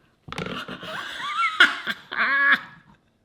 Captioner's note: laughs